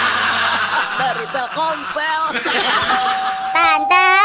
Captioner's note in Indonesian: tertawa